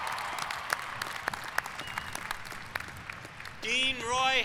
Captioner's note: applause